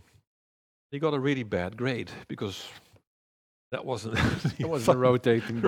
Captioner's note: laughs